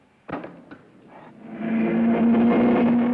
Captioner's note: hammer banging; car revving